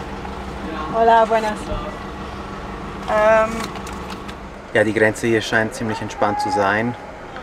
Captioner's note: in Spanish